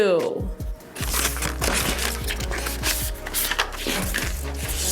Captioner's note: papers ruffling